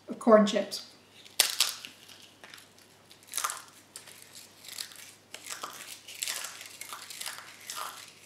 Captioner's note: corn chips crunch